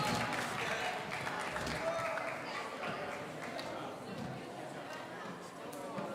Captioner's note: people in the audience conversing